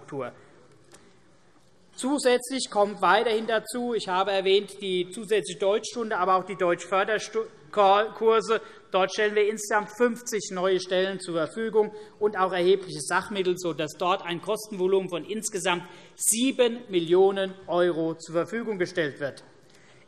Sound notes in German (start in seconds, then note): none